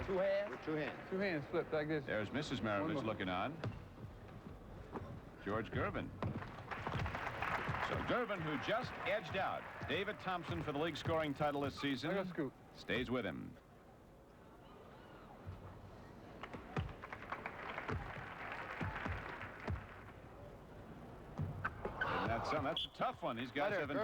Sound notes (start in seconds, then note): 6.4 applause; 16.8 applause